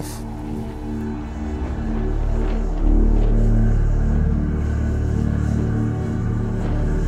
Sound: mystical music; gas hissing

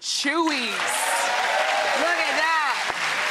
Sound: applauding

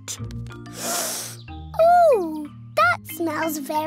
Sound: sniffs

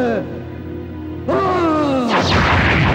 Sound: grunts

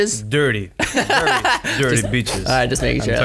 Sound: laughs

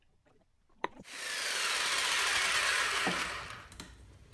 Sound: saw sawing

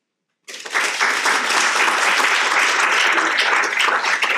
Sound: audience applauding

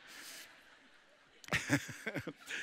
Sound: congregation laughing; chuckling

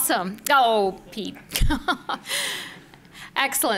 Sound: laughs

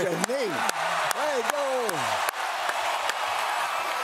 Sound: applause

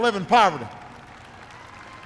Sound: applause

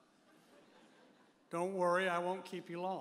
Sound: audience chuckles

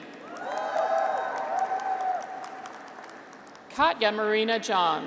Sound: graduates cheer

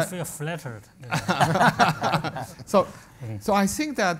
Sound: panel laughs

